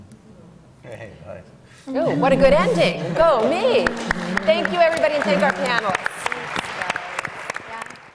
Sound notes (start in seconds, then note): 5.9 applause